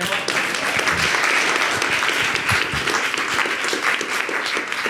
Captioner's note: audience clapping